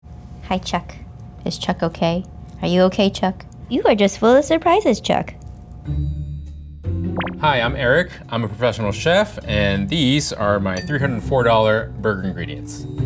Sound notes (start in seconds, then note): 5.9 words popping; 7.0 gentle music